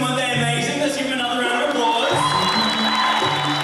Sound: applause

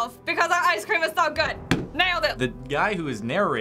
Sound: slams table

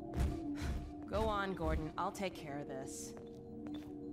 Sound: sigh

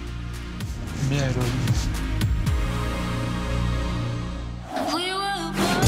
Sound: speaking in foreign language

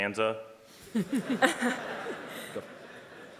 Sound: everyone laughing

